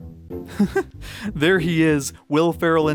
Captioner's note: laughs